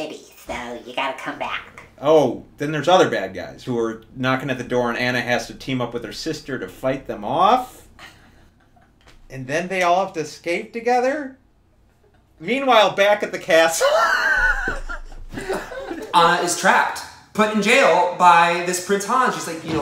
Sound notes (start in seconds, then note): 13.7 laughs